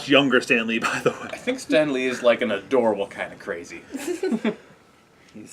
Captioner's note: laugh